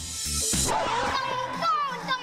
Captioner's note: record scratching